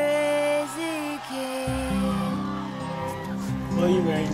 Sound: crowd cheers

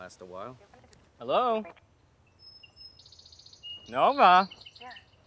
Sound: radio voice garbles

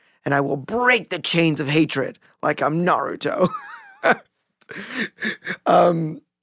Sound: laughing

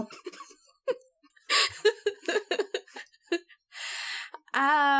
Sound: laugh

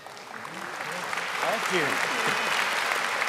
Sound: audience applauding

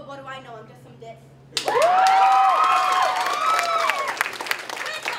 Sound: applause

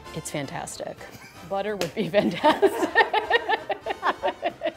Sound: laughs

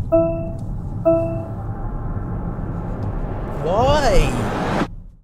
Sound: car Beep

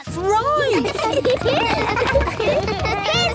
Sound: laughter

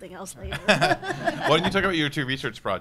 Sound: audience and panelists laughing

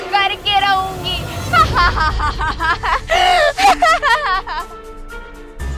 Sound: laughing

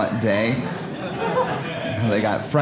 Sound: audience laughing

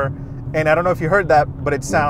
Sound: exhaust sound

